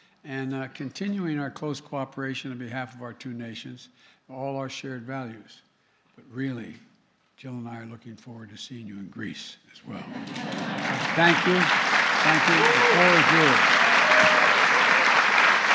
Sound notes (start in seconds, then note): 9.9 laughter; 15.0 applause